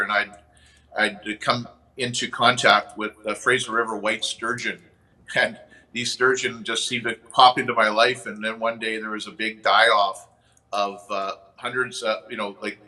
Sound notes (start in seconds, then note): 5.6 chuckles